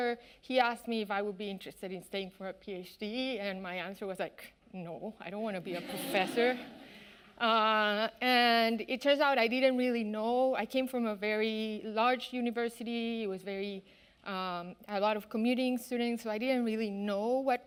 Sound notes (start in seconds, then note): 5.7 audience laughing